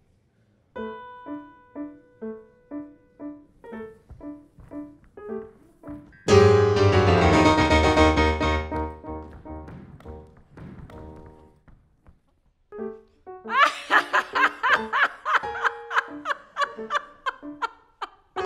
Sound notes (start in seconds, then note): 0.6 gentle piano playing; 6.2 dramatic piano music; 11.6 silence; 12.7 gentle piano music; 13.5 laughing